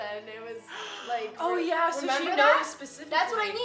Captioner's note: gasps